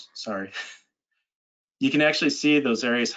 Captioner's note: chuckles